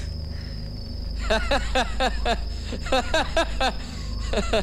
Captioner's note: Laughs